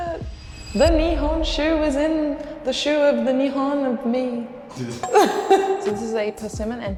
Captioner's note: laughs